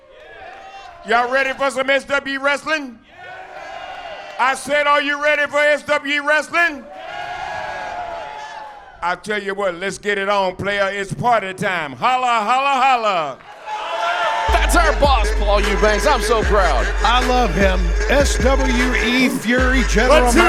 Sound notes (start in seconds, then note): 0.0 crowd; 3.0 crowd cheering; 6.7 crowd; 13.5 crowd cheering